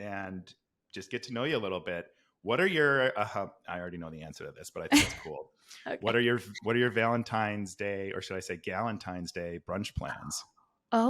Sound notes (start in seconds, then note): 4.9 laughs